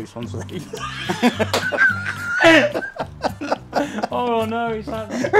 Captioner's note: everyone laughs